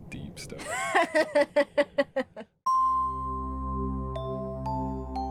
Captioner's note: laughs